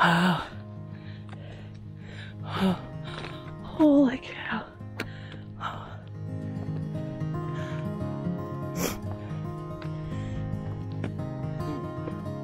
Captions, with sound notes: - Wow. Holy cow. (breathing heavily)